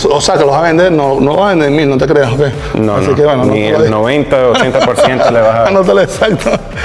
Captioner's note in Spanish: risas